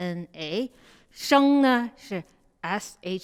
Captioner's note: speaks in Mandarin